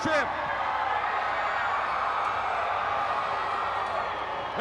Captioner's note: crowd cheering